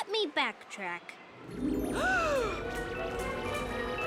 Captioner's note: mystical music; Owen's mother gasps